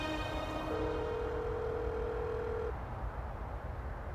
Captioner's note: phone rings